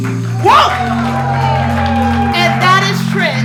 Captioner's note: audience applauding